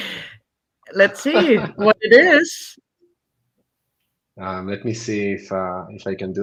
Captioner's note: laughing